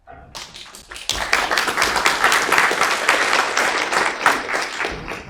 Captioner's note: audience clapping